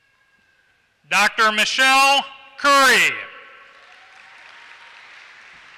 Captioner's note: applause